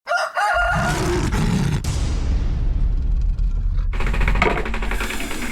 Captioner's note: rooster crowing; growling